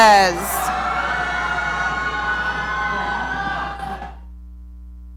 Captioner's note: audience cheering